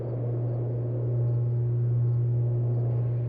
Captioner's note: electrical lines hum